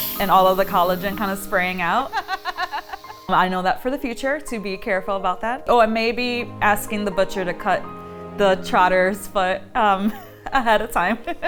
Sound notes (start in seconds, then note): 2.0 laughing